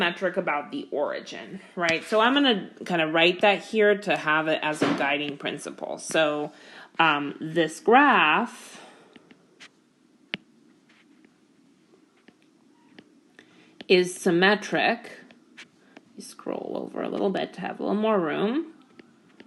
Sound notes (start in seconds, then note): 8.0 keyboard Tapping